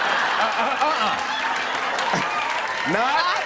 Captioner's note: laughter; cheers